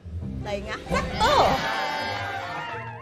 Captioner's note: excited cheering; digital voice